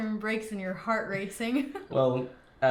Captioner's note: laughs